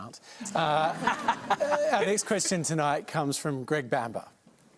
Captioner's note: laughter